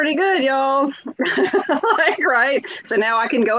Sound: laughs

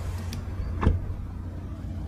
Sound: car door closing

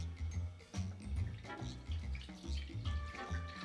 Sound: liquid pouring

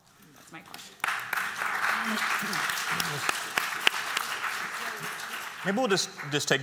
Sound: applause

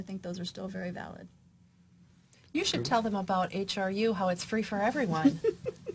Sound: laughter

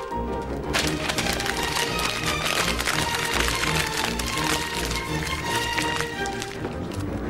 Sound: paper crinkling

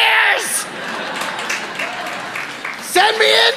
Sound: audience laughing

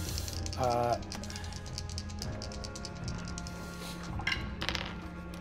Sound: dice clicking

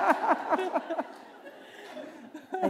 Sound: laughter

